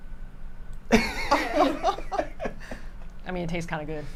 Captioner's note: group laughing